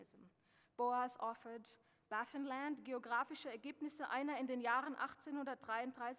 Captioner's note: speaking German